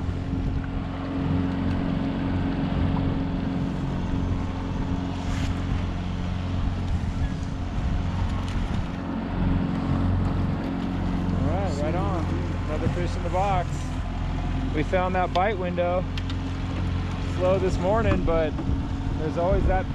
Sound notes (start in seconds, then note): 2.5 boat enigne running